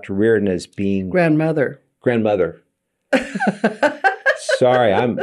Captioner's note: laughing